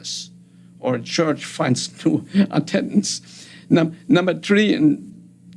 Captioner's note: laughing